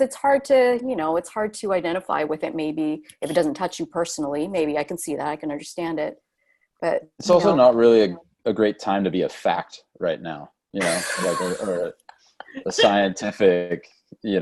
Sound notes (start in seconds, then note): 10.8 laughs